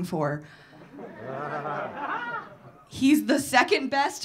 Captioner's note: audience laughing